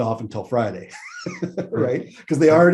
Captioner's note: laughs